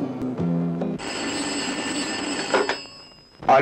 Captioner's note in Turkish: Telefon zil sesi